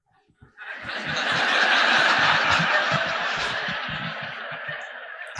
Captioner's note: audience laughing loudly